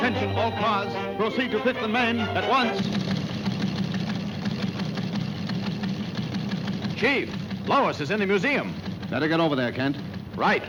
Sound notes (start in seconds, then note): 3.4 news ticker ticking